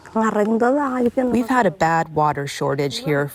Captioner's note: through translator